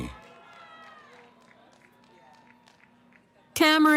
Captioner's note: cheering